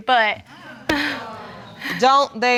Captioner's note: audience exclaiming